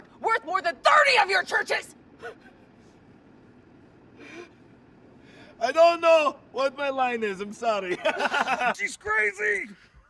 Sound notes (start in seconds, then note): 4.5 Radovan Laughs